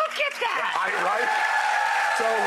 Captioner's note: audience cheers